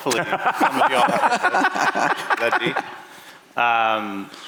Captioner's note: laughter